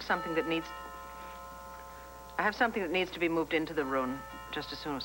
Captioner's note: doorbell rings